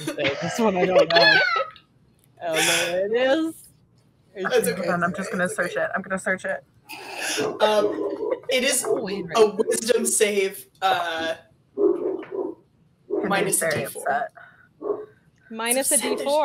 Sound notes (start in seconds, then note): 11.6 dog barking